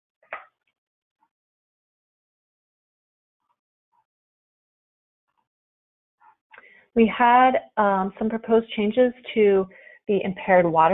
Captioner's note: silence